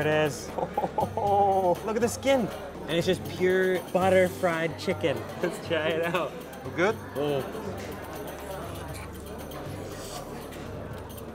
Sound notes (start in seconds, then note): 0.5 laughing; 7.7 gentle upbeat music